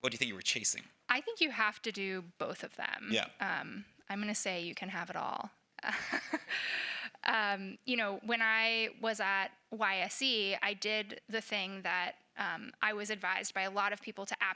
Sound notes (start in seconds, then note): 5.8 laughs